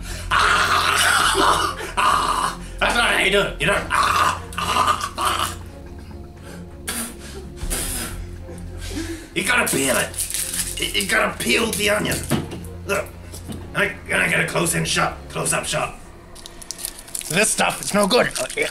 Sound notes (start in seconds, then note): 3.6 choking noises; 6.8 spitting noises